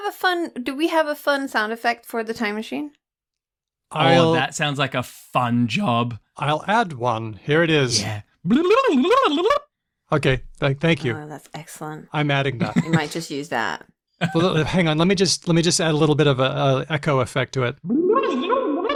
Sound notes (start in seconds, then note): 8.5 imitates sound effect; 12.6 chuckles